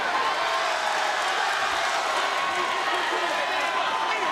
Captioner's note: crowd cheers